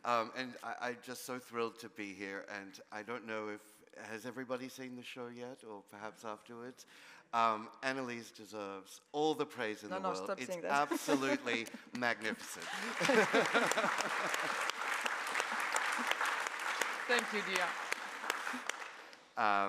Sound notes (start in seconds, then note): 13.1 audience applauding